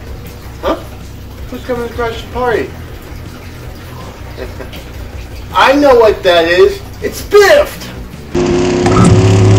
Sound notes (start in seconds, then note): 3.9 chucles